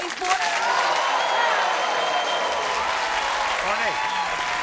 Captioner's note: crowd cheers